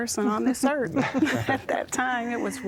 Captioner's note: laughter